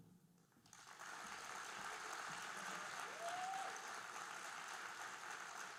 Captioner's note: audience cheering and applauding